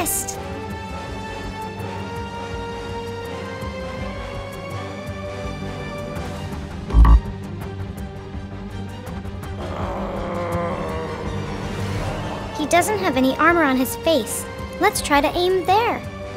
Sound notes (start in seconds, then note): 0.2 suspenseful music; 6.9 buzzer buzzing; 9.5 Goliath groaning; 10.7 suspenseful music